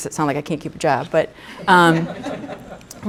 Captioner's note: laughter